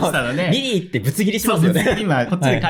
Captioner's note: laughs